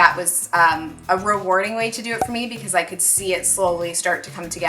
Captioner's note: cork pop